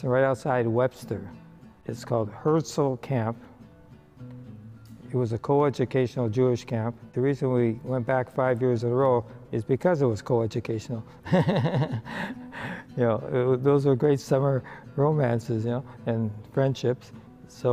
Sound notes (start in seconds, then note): 11.2 laughs